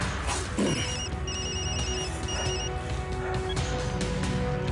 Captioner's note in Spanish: Suena un celular